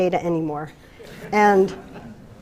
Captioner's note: laughter